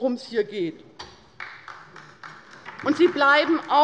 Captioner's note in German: Beifall bei der LINKEN